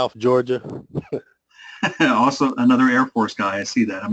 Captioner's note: laugh